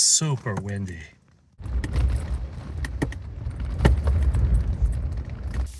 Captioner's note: wind blowing